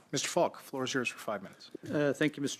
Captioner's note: speaking French